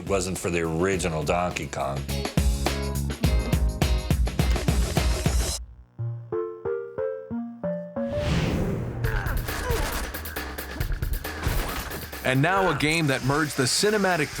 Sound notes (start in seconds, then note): 6.0 arcade music plays; 9.0 grunting; 9.2 gunfire